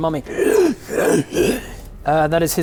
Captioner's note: hrgh hrr hrghh